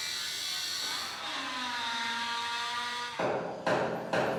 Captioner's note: metal cutter revving